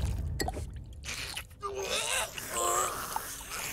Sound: gagging

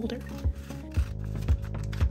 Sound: scissors cutting

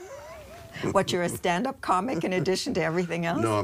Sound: laughs

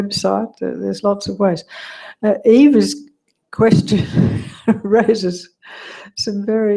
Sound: laugh

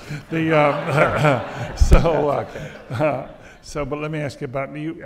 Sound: audience laughs

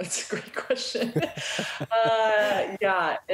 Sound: laughter

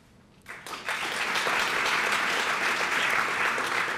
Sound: applause

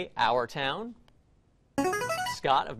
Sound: buzzer plays

